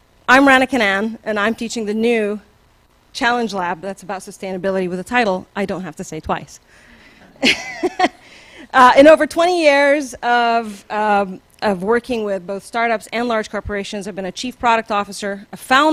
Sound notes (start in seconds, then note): 7.2 laughs